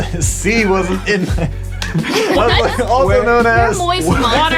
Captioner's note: laughing